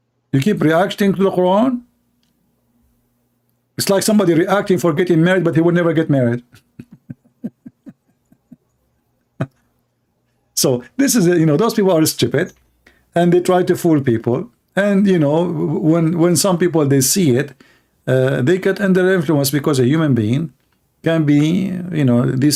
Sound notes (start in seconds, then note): 6.5 Ketawa